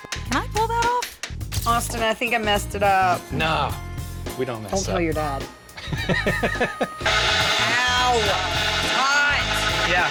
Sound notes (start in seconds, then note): 5.8 laughing